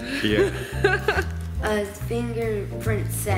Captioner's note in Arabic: يضحك